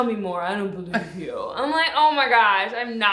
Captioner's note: laughs